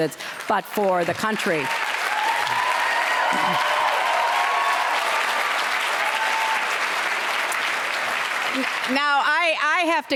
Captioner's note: applause